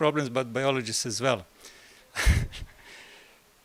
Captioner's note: laugh